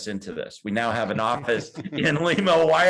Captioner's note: laughs